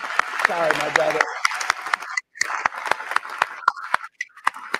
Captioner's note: applause